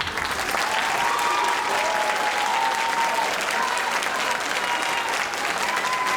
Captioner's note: audience applauding and cheering